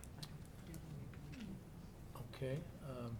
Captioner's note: board members chattering